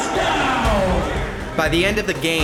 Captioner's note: crowd Noise